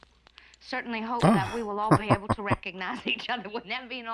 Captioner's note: chuckling